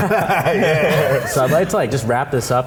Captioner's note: group laughing